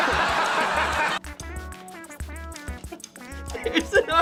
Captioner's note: goofy ah giggling